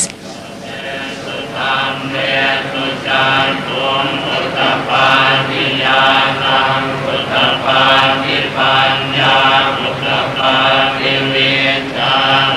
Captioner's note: monks praying